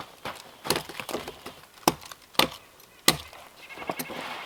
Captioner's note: tongs clanking